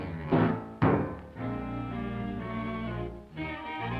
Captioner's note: Felix thudding; bright music